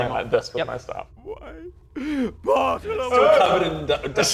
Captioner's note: cries